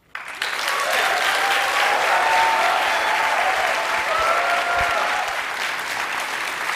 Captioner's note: applause